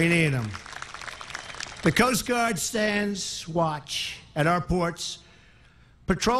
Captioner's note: applause